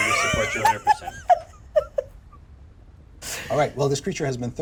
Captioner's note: laughs